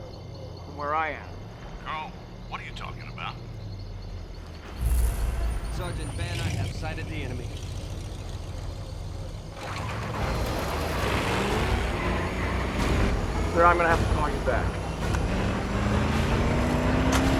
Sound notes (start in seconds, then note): 9.5 engine Revving